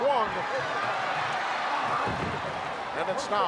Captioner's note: audience cheering